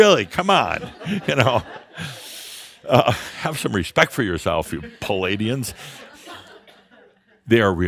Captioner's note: laughter; Adamus chuckles; more chuckles